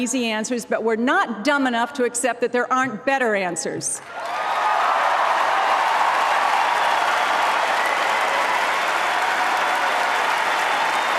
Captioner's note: applause